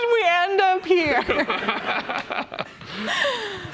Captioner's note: laughter